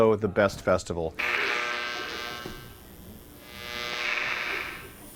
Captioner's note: electronic buzzing